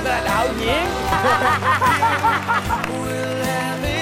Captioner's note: laughs